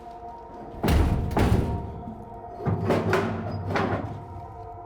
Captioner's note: door thuds